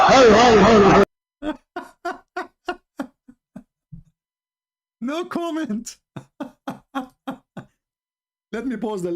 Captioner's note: Ketawa